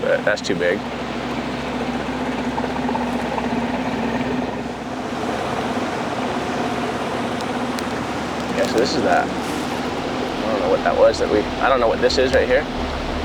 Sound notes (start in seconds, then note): 2.3 engine rumbling; 2.3 water rushing